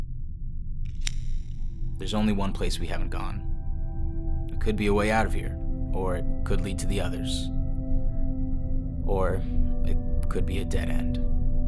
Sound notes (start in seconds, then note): 1.0 lighter flicks on